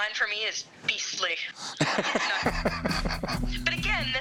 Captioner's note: chortling